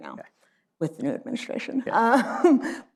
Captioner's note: laughs